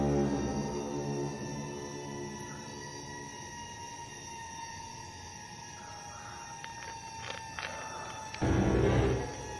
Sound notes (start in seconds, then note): 5.8 heavy breathing